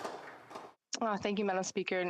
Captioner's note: some Applause